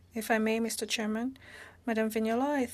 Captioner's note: speaking French